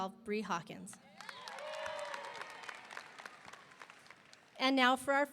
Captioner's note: audience applauding; audience cheering